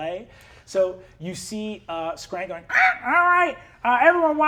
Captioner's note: caws